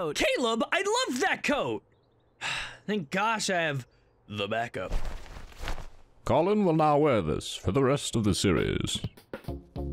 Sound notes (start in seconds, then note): 2.4 sigh; 4.8 clothes rustling